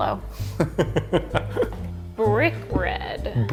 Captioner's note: laughing